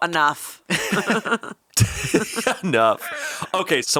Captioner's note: all laughing